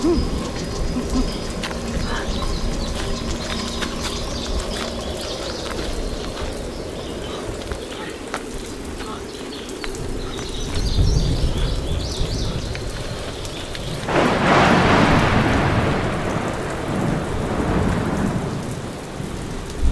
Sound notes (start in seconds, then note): 0.0 both grunting; 2.6 birds chirping; 10.7 thunder rumbling; 13.8 thunder crashing; 16.7 rain pattering